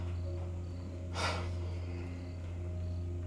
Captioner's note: Tyler sighs; crickets chirping; gentle music